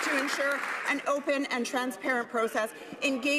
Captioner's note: some Applause